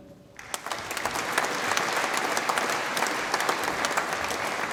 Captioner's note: audience applauds